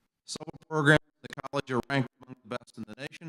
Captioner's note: audio cuts out